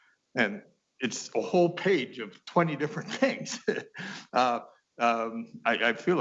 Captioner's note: laughing